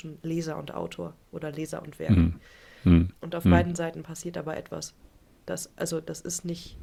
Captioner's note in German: räuspern